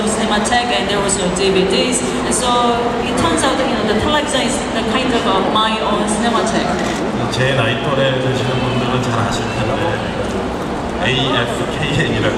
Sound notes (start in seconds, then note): 7.3 speaking Korean